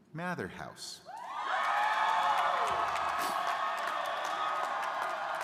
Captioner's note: crowd cheering